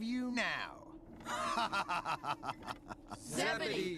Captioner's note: evil laughter